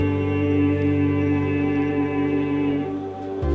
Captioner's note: humms higher note